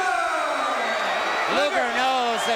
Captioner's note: crowd cheering